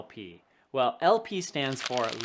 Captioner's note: paper rubbing